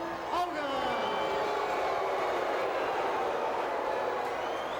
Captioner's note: crowd boos